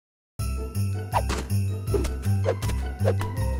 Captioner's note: snowballs splatting